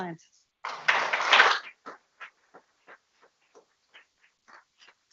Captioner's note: people clapping